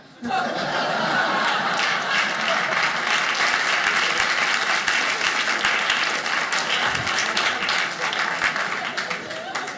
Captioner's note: audience laughing; audience clapping